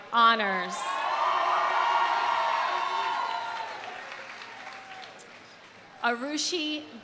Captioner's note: audience cheering; audience applauding